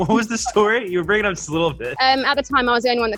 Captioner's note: they laugh